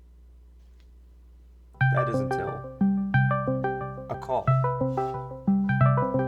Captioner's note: Discord call starts